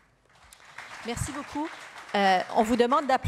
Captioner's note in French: applaudissements